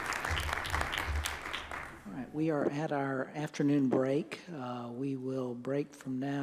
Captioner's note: applause